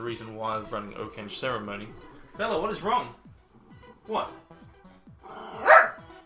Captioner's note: his dog is barking